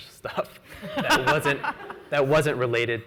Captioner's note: laughs